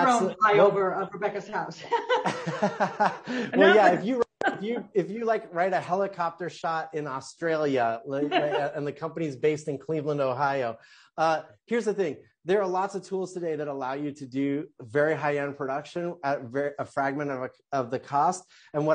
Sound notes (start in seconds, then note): 1.8 laughing softly